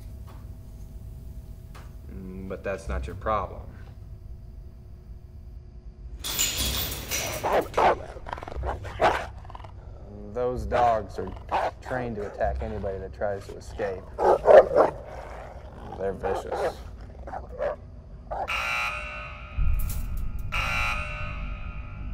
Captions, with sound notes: But that's not your problem. (door rattles) (dog snarling) Those dogs are trained to attack anybody that tries to escape. (dog barking) They're vicious. (alarm blaring)